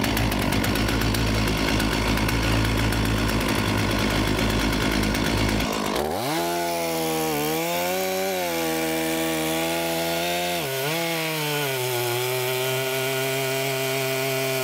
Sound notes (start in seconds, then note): 6.5 chain saw buzzing